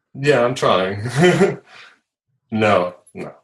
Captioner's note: laughs